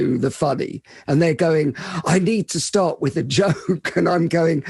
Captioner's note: laughs